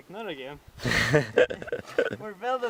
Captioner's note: goofy Laughter